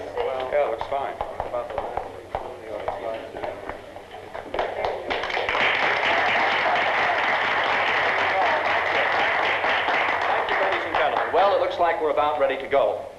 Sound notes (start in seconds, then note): 4.4 applause